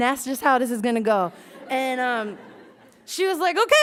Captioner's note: laughs